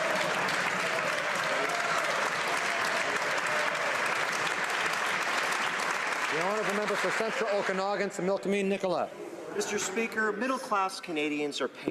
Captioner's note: some Applause